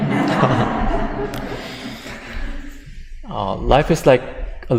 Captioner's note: audience laughter